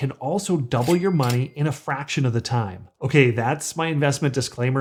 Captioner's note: ding